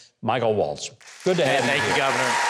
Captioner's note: audience clapping and cheering